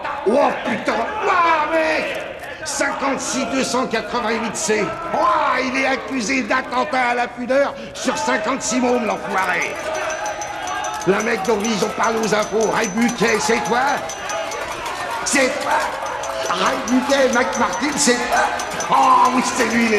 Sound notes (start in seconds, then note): 14.7 inmates banging bars